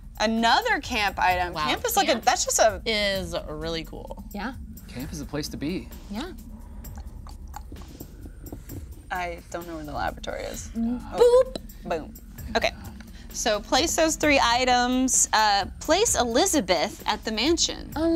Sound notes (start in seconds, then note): 6.8 tongue clicking